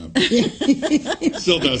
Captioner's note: laughs